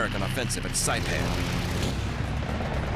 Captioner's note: gunfire